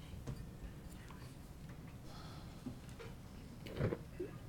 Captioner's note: people chattering